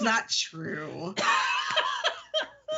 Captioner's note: laughing